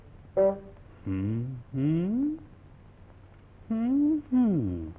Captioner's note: approving hums